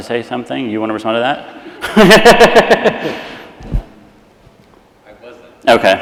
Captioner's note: laughs